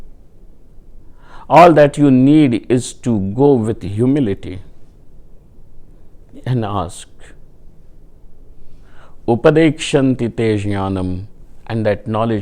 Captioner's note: sanskrit